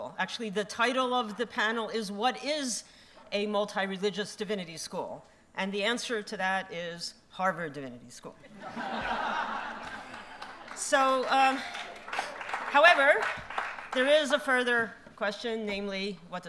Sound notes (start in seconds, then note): 8.4 laughter; 9.8 applause